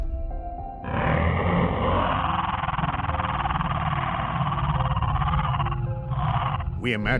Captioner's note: dinosaur roars